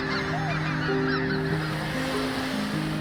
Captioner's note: ducks quacking; geese honking; water rushing